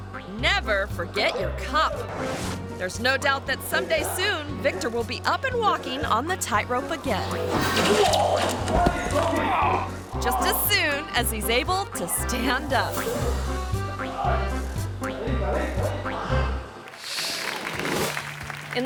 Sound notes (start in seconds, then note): 7.3 thuds; 8.7 groans; 9.9 trainer speaking foreign language; 13.4 whimsical music continues; 15.6 trainer speaking foreign language